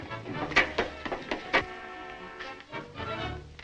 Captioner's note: feet thud